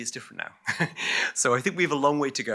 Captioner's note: chuckles